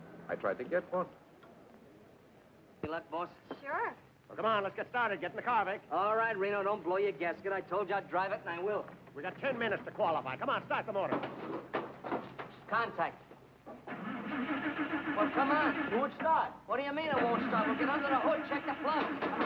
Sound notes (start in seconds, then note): 13.9 car revving